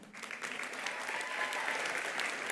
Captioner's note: attendees applauding; attendees cheering